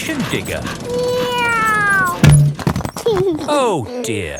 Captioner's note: george imitates airplane; george giggles